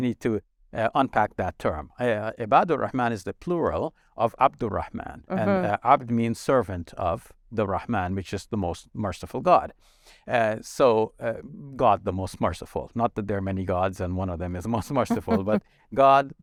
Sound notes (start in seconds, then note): 0.0 speaking Arabic; 2.1 speaking Arabic; 4.7 speaking Arabic